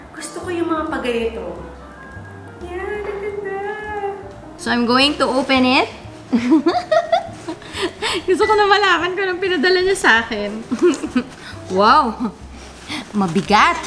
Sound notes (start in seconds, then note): 6.3 giggles